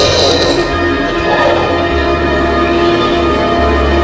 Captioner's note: now very close the creature roars; now closer the creature roars